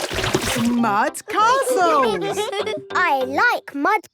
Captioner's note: all giggling